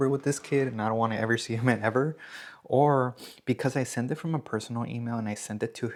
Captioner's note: snorts